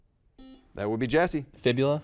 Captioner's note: buzzer dings